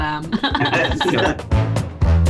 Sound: upbeat music; laughter

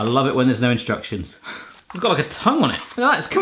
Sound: sighs

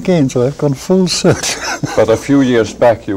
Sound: chuckles

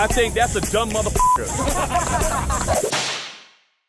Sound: laughter

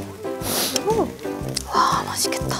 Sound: sniffle

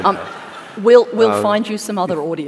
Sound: laughter

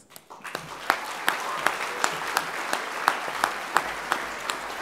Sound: applause

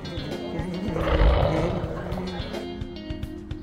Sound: giggling

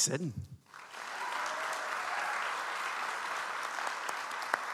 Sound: audience applauds

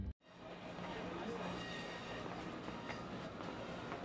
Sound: street noise

